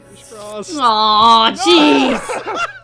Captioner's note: disappointed groan